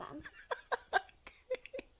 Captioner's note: laughs